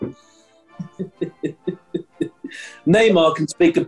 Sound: chuckling

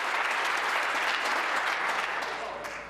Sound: applause

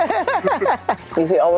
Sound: laughs

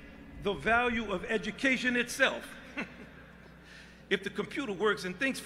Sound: chuckling

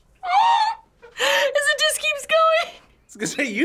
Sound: laughs

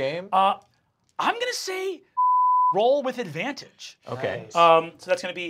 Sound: beep

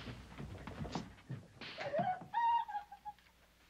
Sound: swak!!!; crying

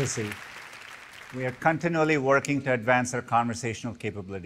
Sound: applause

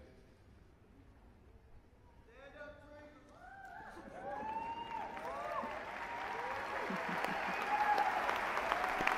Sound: applause

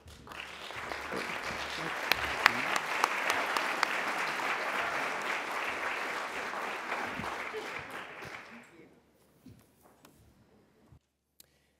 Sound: applause

